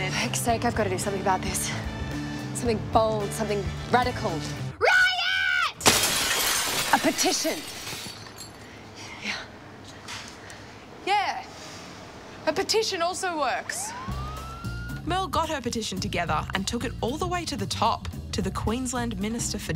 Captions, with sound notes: For heck's sake, I've gotta do something about this. Something bold. Something radical. RIOT! (smashing glass) A petition. Yeah a petition also works. (police sirens) Merle got her petition together and took it all the way to the top to the Queensland Minister for Justice.